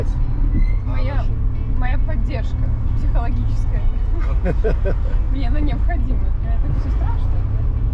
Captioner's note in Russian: смех